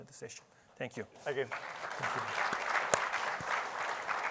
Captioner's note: applause